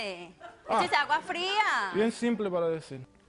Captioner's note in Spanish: Risas